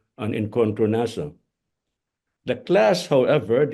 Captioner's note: speaks in foreign language